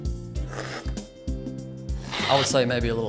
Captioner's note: slurping